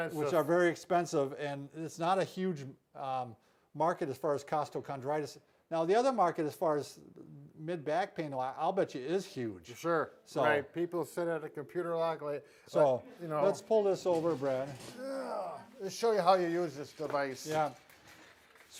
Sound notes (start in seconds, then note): 14.8 grunting